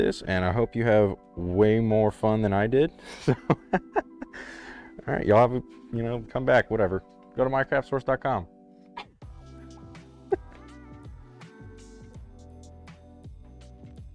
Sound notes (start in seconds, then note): 3.1 chuckles; 4.2 inhales